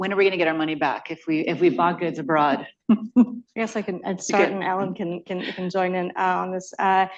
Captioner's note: laughter